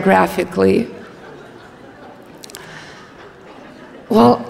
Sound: audience laughs

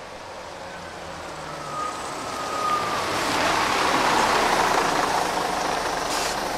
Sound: sound of a truck getting closer and closer and then stopping

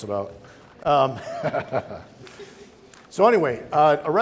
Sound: laughing

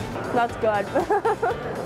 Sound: laughs

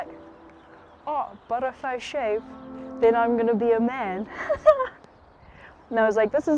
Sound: laughs

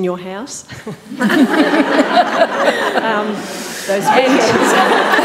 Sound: panellists laughing

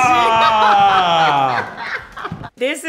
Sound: laughs

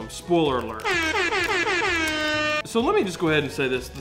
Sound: alert alarm

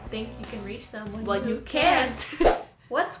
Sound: laughing

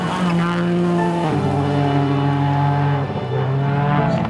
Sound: car engine revs

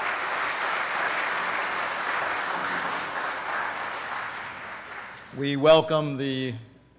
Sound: applause

